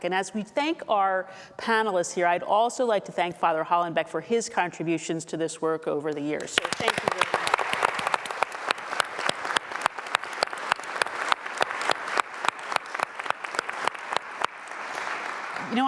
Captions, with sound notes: and as we thank our panelists here, I'd also like to thank Father Hollenbeck for his contributions to this work over the years, so thank you very much. (audience applauding)